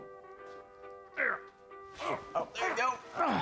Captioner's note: groaning